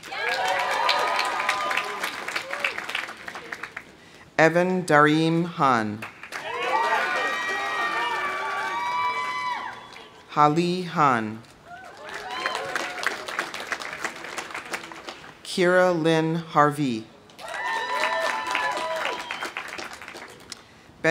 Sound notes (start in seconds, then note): 0.0 audience cheering; 0.0 audience applauding; 6.0 audience applauding; 6.3 audience cheering; 11.6 audience cheering; 11.7 audience applauding; 17.4 audience cheering; 17.4 audience applauding